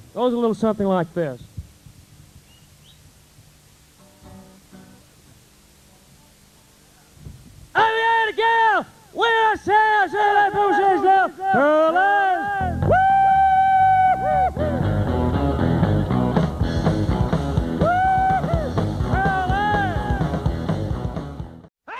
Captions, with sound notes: Goes a little something like this. [guitar strums] I had a gal, way out south, said her name was Lucy Lou. Paralyzed. [screams] [instrumental music]